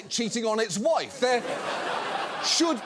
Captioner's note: studio audience laughs